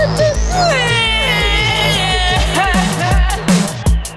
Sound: sobbing; upbeat music

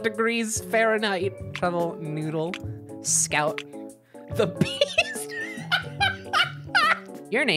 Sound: wheeze laughing

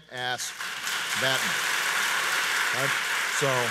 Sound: audience applauds

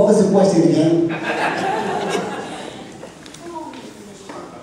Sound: laughter

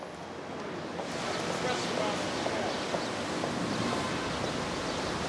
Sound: street sounds

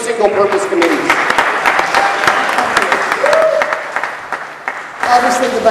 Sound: applause

